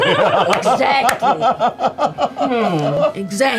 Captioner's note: laugh; laughs